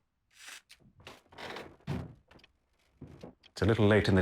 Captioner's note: wood creaking